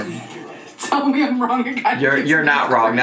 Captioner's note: laughing